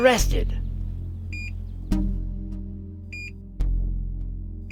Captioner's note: monitor beeping